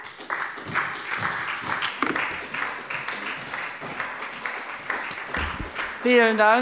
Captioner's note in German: Beifall bei der SPD